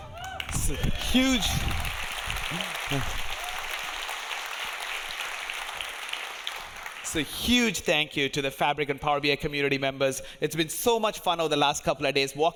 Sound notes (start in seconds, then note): 0.0 audience cheering; 4.5 audience applauding